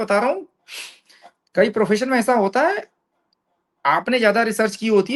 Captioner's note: nasal voice